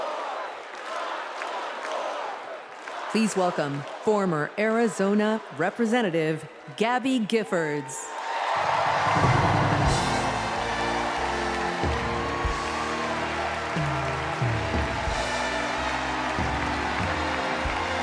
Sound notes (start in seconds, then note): 3.0 crowd chanting